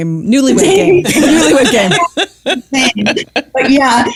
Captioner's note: laughs